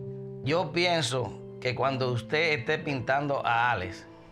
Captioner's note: speaking spanish